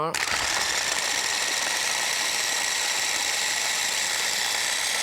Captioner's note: blender squealing